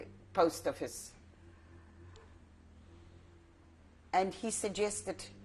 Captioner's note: pauses for 3 seconds